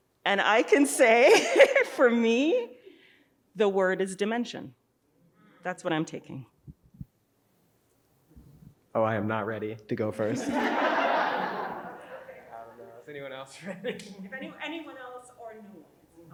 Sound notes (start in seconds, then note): 10.2 audience laughing